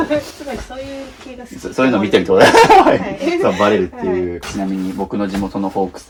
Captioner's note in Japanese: 笑い